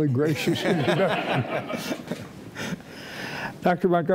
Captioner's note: audience laughing